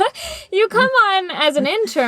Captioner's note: laughter